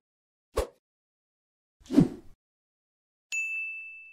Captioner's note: air whooshing